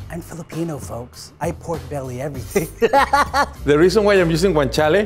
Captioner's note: laughing